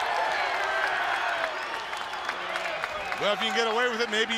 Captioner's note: crowd cheering